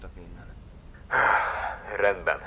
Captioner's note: sigh